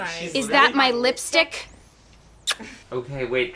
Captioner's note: kissy noise